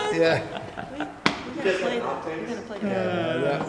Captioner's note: laugh